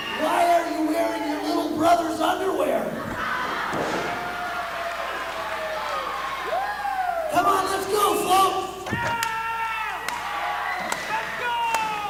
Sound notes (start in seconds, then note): 3.1 crowd laughs and applauds